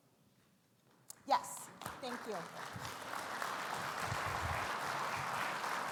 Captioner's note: audience claps